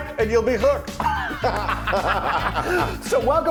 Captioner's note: both laugh